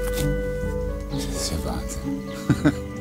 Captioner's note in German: Er lacht